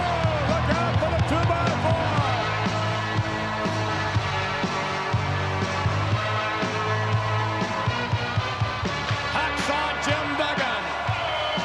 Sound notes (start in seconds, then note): 2.3 audience cheering; 2.3 upbeat music